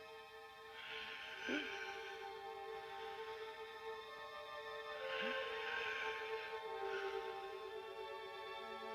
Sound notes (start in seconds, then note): 0.0 gentle music; 0.7 Billy gasping continues